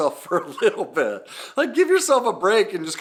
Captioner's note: laughing